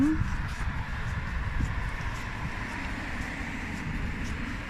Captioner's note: traffic